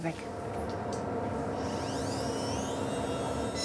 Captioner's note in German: Schleifgeräusche